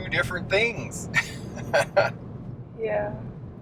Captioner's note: chuckling